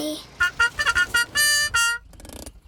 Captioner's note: horn tooting